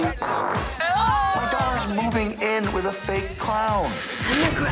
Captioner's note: passing gas